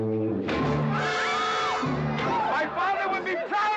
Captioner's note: Katherine screaming